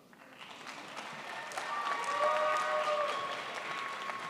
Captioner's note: crowd applauds